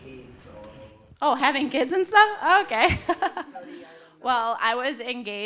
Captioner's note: laughs